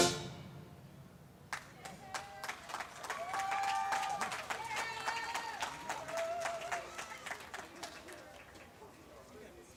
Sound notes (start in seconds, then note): 2.0 crowd applauding